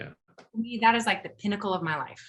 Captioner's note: none